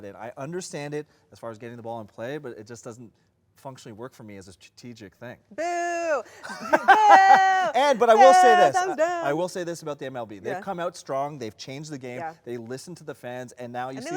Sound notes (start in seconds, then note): 6.3 laughs